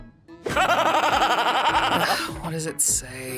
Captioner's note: laughs manically; sighs